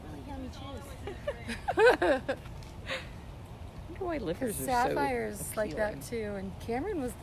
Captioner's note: laughter